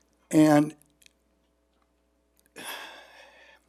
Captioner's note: sighs